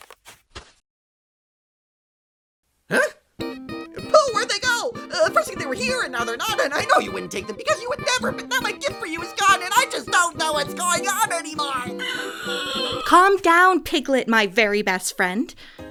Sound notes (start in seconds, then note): 10.8 squeals